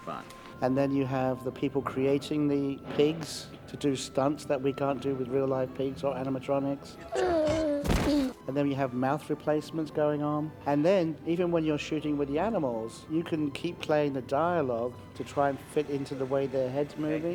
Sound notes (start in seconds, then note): 7.0 groans